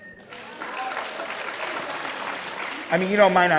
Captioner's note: crowd cheering